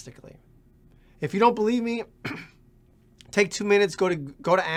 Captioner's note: clears throat